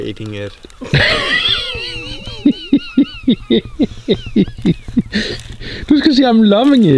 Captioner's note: parents laughing